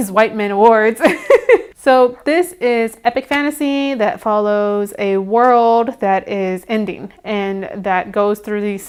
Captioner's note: awkward laugh